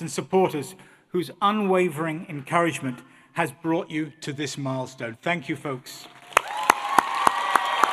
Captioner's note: applause